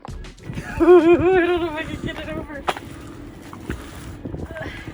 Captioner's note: laughing